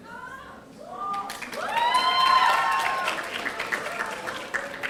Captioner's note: audience applauding